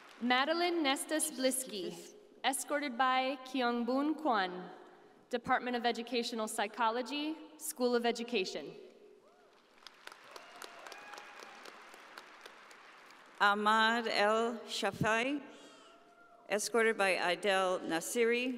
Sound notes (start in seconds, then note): 0.0 audience applauding; 9.5 audience applauding